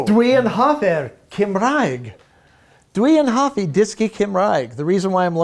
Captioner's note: speaking foreign language